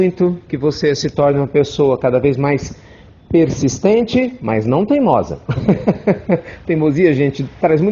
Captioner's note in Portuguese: Risos